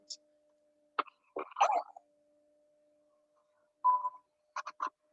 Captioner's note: croupy cough sound